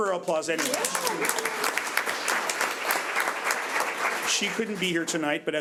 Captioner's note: audience applauds